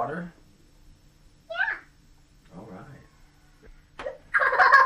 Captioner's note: laughs